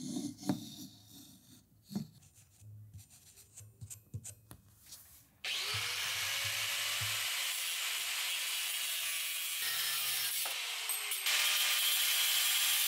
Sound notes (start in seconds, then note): 0.1 various sounds of making a part; 5.4 angle grinder whirring